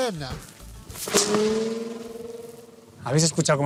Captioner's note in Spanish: Zumbido